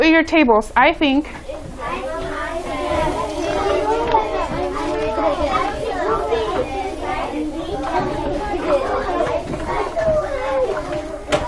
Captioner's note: student Discussing